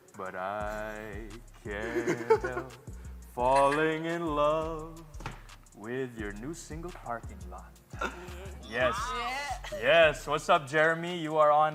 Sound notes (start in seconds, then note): 1.7 chuckles